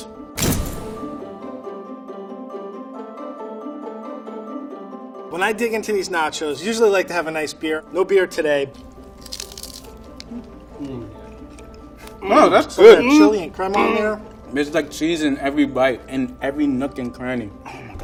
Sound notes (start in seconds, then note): 0.3 slamming; 8.7 chips crunching